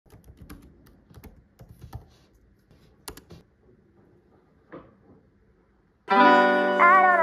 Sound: keyboard sound

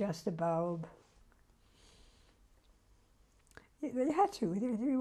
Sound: pauses for 3 seconds

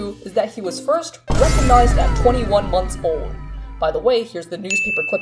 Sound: crashing, glass breaking, wow sound effect

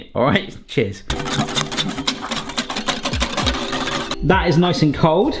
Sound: whisk clatters

